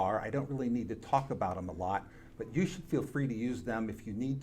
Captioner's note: none